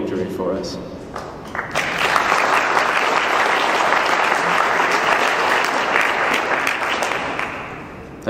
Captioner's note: clapping